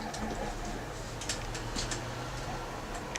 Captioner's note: none